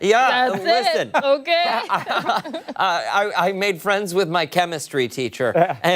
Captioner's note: laughter